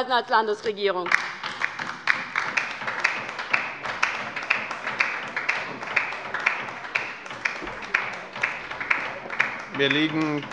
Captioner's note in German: Beifall bei der LINKEN